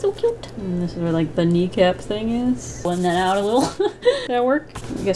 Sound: giggles

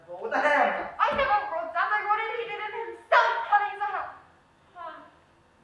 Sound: her voice dies away

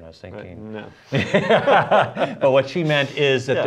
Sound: laughter

